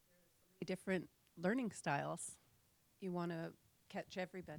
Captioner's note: voiceover